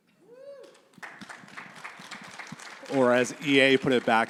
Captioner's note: audience cheering